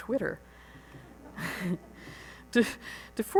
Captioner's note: laughs